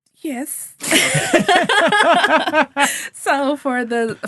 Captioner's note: all laughing